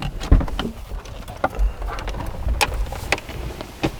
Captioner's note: door opens